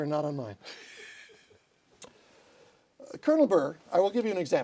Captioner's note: laughter